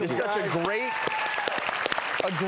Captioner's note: clapping and cheering